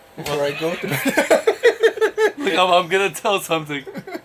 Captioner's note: all laughing